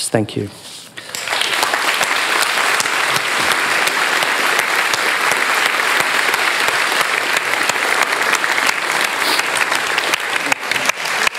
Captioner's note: applause